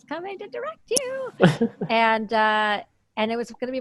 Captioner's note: laughs